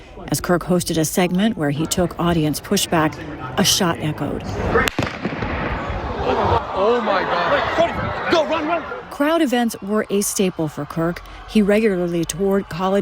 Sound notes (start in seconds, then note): 6.9 gunshot